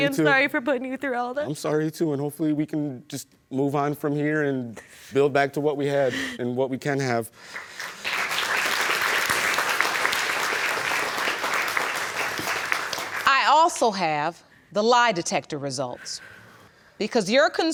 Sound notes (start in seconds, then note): 7.4 applause